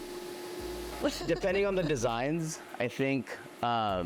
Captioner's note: laughs